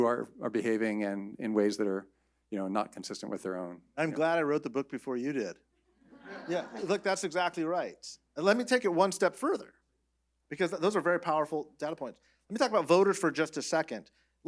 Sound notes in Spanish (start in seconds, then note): 6.1 risas